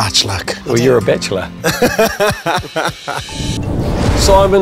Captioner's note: laughs